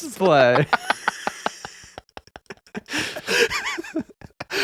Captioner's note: laughing